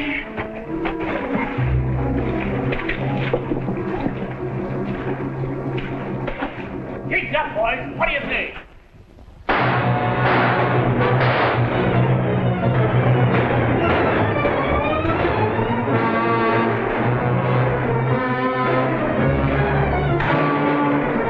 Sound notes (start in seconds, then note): 0.0 suspenseful music - waves splashing; 9.3 gunshots - tense music; 16.9 tense music - gunshots